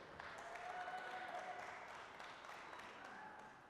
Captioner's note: applause, cheering